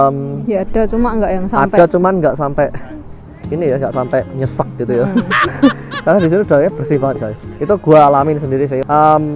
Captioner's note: chuckles